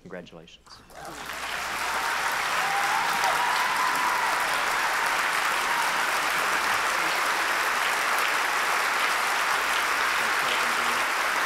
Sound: applause

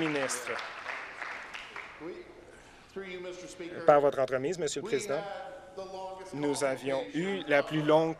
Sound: applause

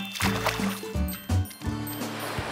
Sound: wave crashing

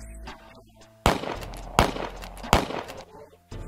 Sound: more gunshots

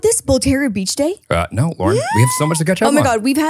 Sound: exclaiming

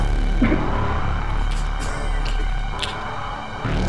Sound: coughing

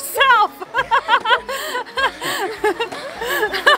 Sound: laughing

